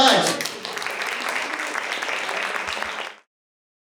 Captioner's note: applause